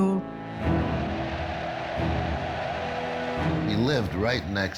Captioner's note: cheering